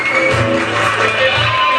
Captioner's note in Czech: Potlesk